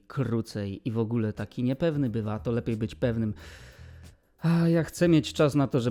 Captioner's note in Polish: westchnienie